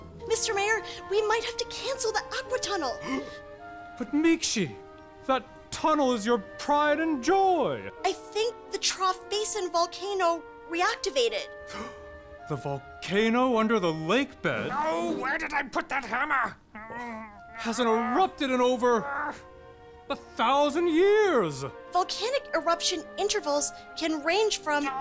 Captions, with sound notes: Mr Mayor, we might have to cancel the Aqua Tunnel! [gasp] But Miikshi, that tunnel is your pride and joy! I think the Trough Basin volcano reactivated. [gasp] The volcano under the lake bed Oh, where did I put that hammer? [grunting] hasn't erupted in over a thousand years! Volcanic eruption intervals can range from —